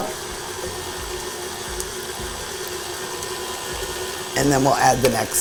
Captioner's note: mixer scraping